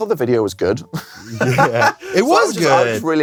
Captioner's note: laughs